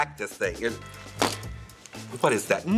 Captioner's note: fan rustles